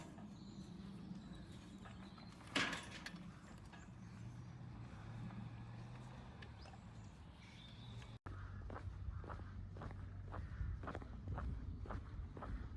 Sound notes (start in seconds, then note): 2.4 gate rattles; 9.1 footsteps